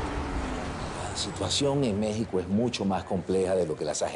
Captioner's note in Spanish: Bullicio de la calle